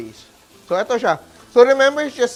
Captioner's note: sizzles